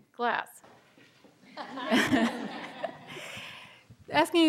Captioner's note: laughter